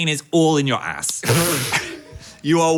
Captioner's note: scoffs